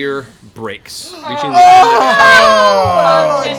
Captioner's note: disgruntled moans